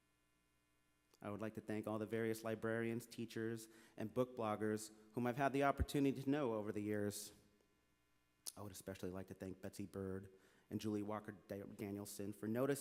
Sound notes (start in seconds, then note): none